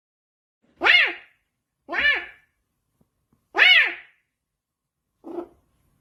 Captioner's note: boykisser sounds